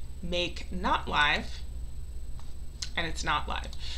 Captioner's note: mouse clicks